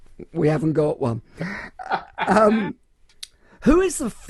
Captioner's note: laughs loudly